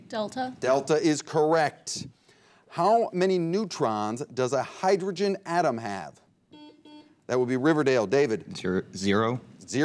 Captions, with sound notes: - Delta. - Delta is correct. How many neutrons does a hydrogen atom have? (buzzer beeps) That will be Riverdale, David. - Zero.